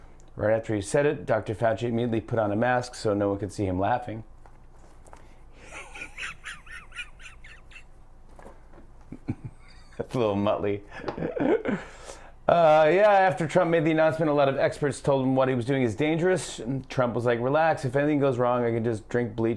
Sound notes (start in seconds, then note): 5.6 laughs